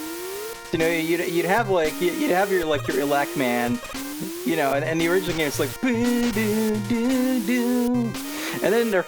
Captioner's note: hums